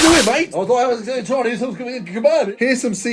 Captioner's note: spluttering